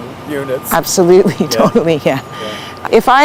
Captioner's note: nods & laughs